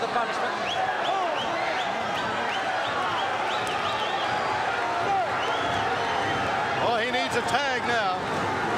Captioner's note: crowd cheering